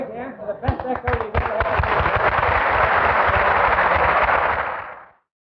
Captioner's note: audience clapping